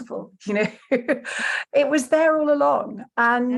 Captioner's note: chuckles